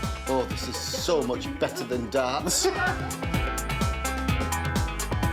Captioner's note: laughter